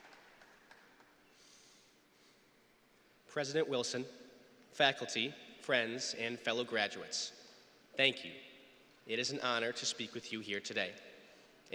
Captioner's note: applause